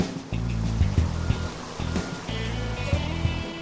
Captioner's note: rushing water